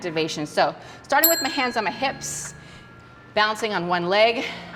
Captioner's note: bell rings